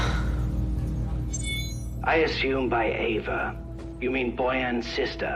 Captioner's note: chiming